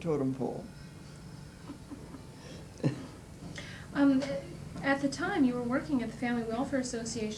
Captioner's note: laughter